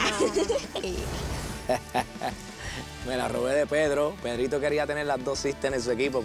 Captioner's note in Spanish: risas